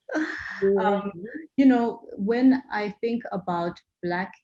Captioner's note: laugh